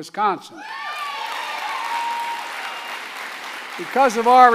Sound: applause

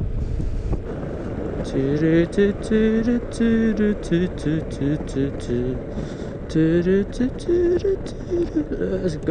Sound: humming

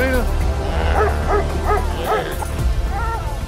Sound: Willamina barking; dramatic music

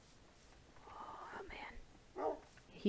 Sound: still whispering

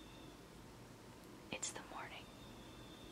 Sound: whispers

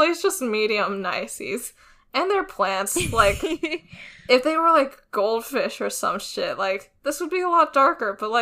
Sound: laughs

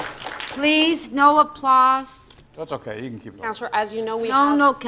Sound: applause

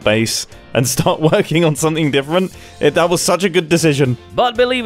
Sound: laughs

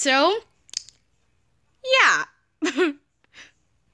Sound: laughs

